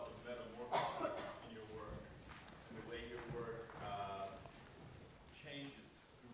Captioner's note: voiceover; coughing